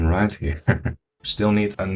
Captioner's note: laughs